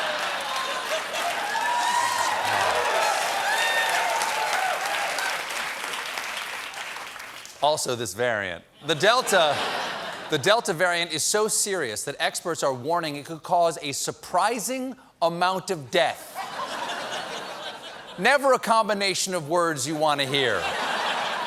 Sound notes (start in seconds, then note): 0.0 applause; 0.2 laughter; 16.3 laughter